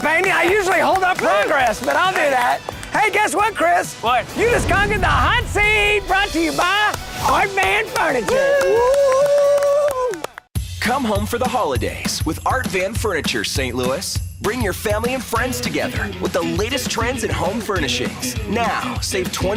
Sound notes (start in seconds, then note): 4.1 loud swooping; 4.2 loud slamming; 7.4 cymbal crashing; 7.8 clapping; 8.6 swooping